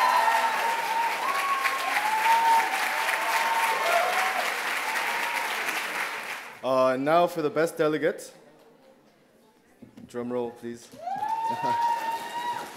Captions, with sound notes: (loud applause and cheers) Now for the best delegates, drumroll please.